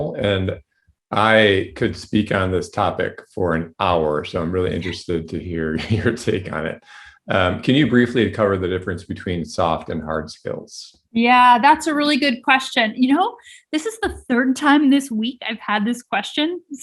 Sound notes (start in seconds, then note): 6.2 chuckling